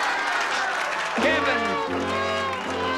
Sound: audience applauding

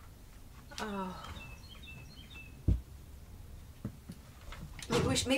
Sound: birds chirping

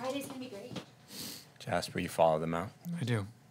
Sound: none

